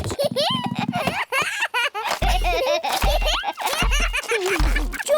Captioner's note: both giggling